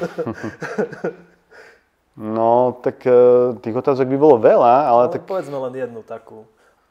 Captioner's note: laughs